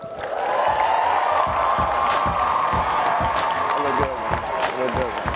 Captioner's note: attendees applauding and cheering